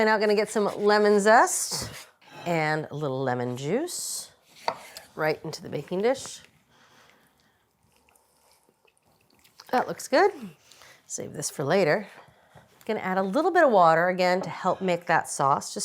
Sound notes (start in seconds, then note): none